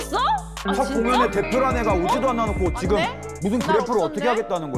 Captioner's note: sound effect of getting angry after being criticized over and over